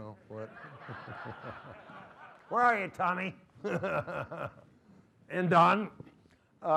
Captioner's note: laughter